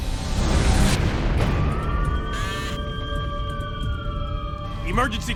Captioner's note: sirens wailing